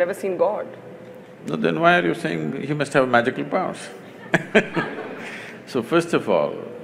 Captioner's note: laughter